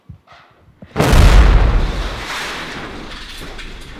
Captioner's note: loud explosion